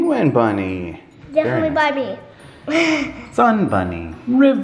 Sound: laughs

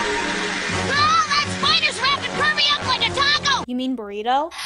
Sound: screams

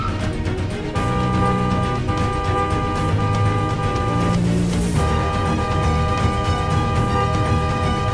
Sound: car horn sound

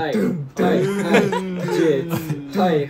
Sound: vocal percussions

